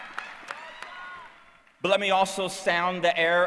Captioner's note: cheering